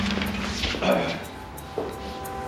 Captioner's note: clears throat